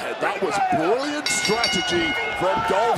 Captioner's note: bell rings